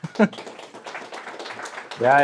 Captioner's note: audience applauding